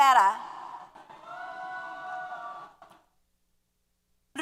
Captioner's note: applause & Cheers